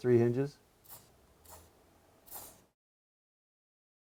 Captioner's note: sprays